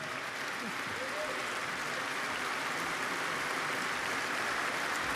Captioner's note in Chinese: Applause; 掌聲